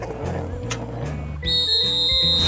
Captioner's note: whistle blows